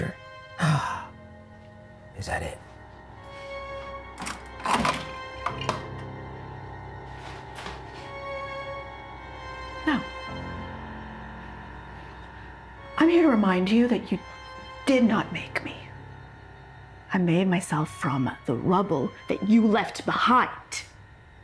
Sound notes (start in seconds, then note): 4.2 drawer rattles